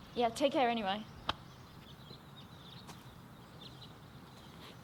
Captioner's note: birds chirping